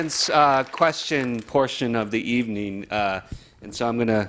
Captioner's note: applause